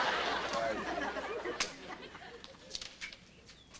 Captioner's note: audience laughter; clap